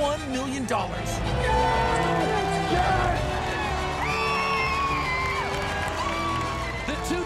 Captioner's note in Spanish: aplausos